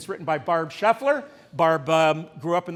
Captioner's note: none